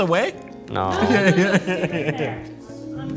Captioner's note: laughs